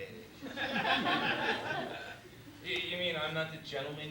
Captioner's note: laughter